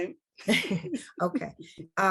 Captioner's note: board members laugh